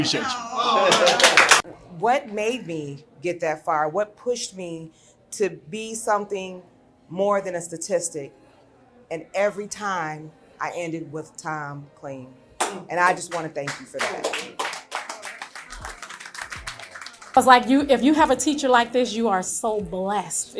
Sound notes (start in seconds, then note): 0.6 crowd applauding; 13.6 crowd applauding